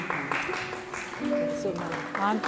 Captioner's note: speaking in foreign language; audience applauds